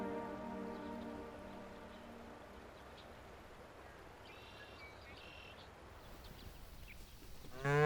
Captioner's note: water flowing; birds chirping; cow mooing